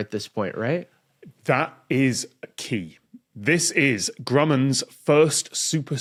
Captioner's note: none